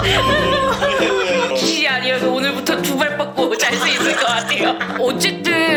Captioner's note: still laughing hard